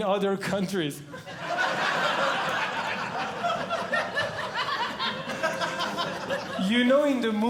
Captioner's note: audience Laughing